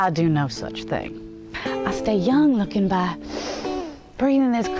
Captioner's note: deep breath